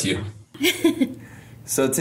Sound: laughing

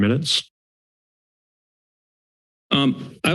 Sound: silence

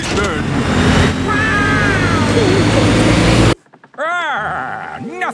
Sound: laughing

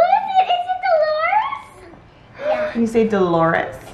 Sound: gasps

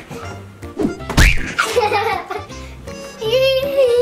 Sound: screams and laughs

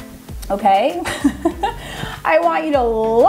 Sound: laughs

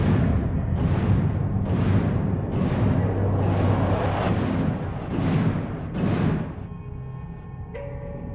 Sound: banging continues

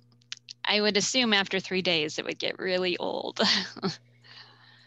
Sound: chuckles

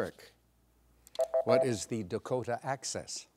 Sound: bell dings

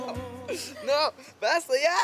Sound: laughs

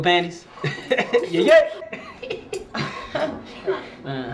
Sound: laughing

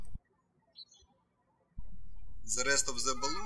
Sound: birds chirping

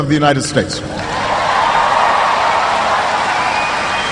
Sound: cheering

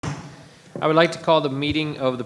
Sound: gavel tapping

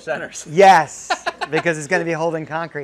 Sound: laughing

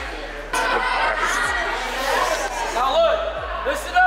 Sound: camera Operator Laughing

